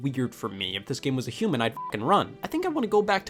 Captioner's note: beep